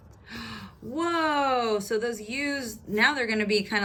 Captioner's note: gasp